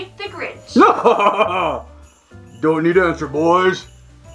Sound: laughs

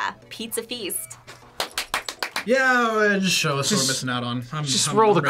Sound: claps

